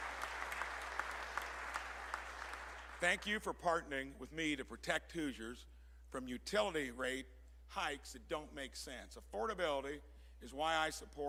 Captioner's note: applause